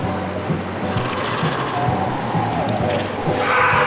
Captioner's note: critter chittering; worker screams